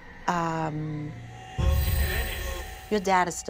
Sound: speaking distortedly

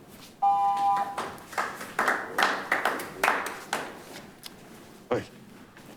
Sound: audience applauding

